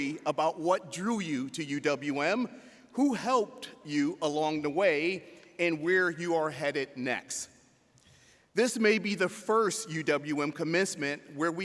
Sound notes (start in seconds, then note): none